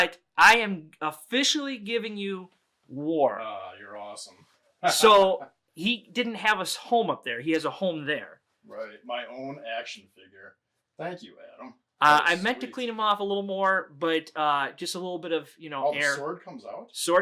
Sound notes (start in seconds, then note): 4.8 laughing